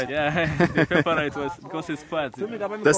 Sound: both laughing

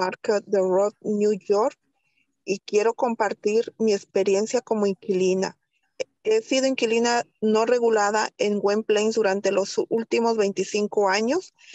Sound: speaking spanish

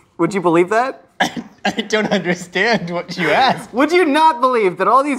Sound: laughs

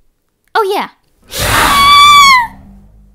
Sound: hissing sound

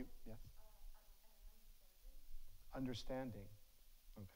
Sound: faintly speaking

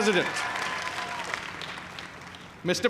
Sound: cheers and applause

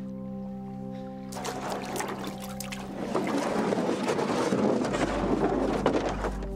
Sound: grinding

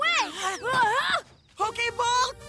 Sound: yelps

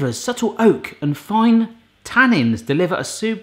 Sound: none

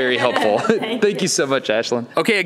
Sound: laughs

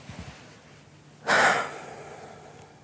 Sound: breathes out heavily

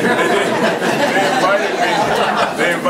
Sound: group laughs

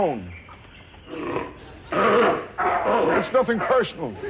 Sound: seal barks

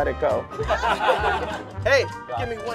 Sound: laughter

